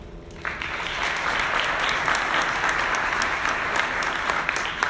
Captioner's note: audience clapping